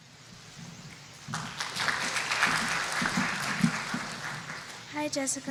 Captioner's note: applause